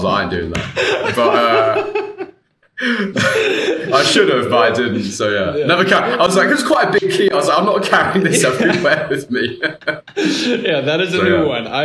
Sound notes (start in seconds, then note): 2.1 both laughing